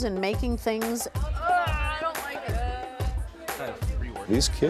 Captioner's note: chatter